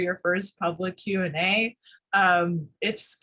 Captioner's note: none